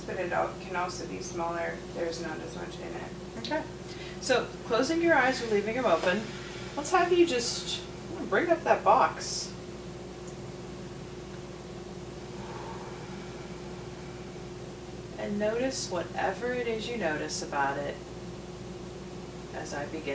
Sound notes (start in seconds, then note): 11.8 breathes deeply